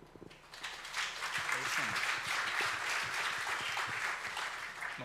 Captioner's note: audience applauds